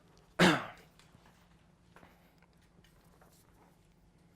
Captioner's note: clears throat